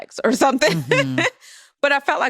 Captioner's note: laughs